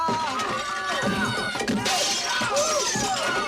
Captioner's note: people screaming